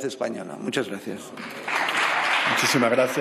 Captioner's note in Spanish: Aplausos